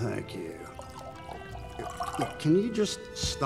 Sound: wine pouring

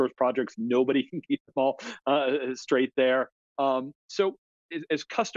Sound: laughing

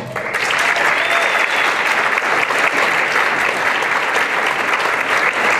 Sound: applause and cheering

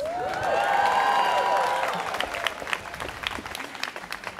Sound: students cheering

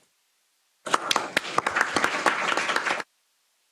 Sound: applause

